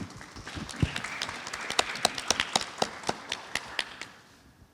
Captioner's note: audience applauds